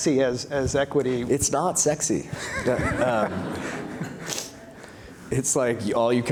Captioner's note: laughs